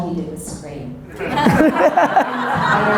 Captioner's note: audience laughter